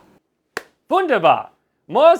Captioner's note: claps